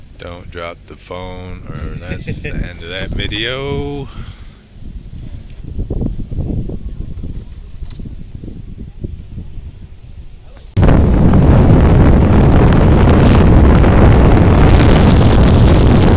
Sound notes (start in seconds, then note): 1.7 laugh; 5.4 wind blowing